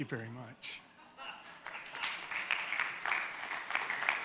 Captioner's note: all clap